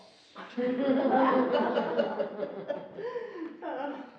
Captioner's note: laughing